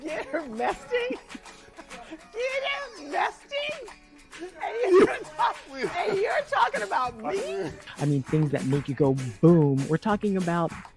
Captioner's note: laughter